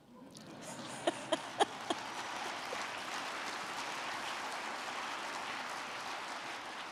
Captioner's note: crowd clapping; Kamala chuckling